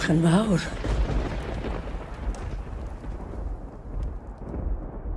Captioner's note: thunder claps